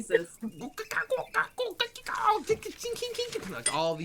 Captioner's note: squawking